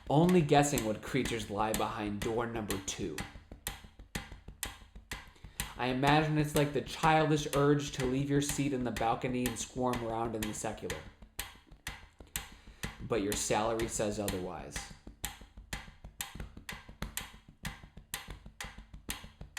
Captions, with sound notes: only guessing what creatures lay behind door number 2. (tapping and ticking sound) I imagine it's like the childish urge to leave your seat in the balcony and squirm around in the secular, (tapping and ticking sound) but your salary says otherwise. (tapping and ticking sound)